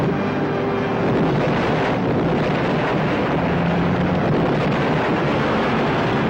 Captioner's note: helicopter booms and explodes